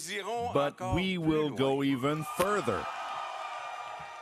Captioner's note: cheering